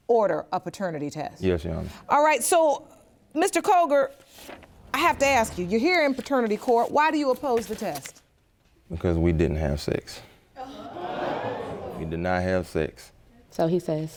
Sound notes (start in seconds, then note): 10.7 audience groans